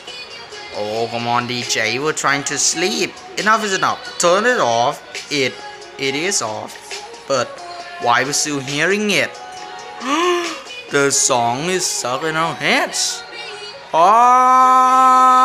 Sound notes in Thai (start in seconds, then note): 13.9 ทุกคนกรี๊ด